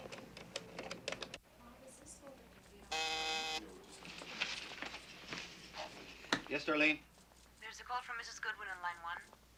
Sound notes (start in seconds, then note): 2.9 telephone buzzes